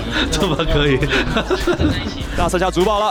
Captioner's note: laughs